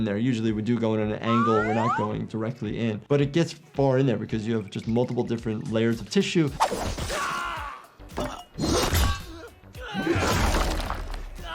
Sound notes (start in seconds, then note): 6.5 characters groan, weapon slashes